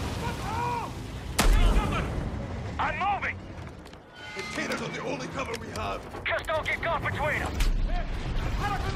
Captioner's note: gunshots